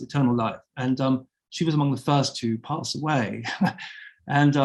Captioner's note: chuckling